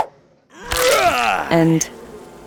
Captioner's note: Samson yelling